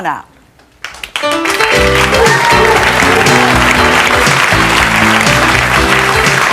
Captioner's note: audience clapping; jazzy music